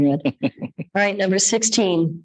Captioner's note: people chuckle